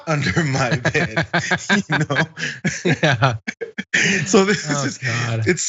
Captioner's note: laugh